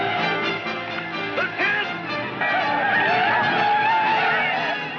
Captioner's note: Bob mumbles